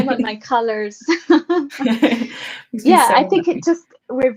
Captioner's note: laughing